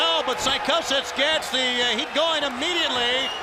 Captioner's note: crowd cheering